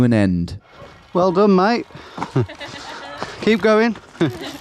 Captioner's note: woman laughing